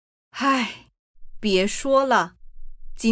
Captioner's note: sigh